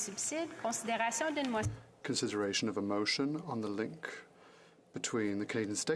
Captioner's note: speaking French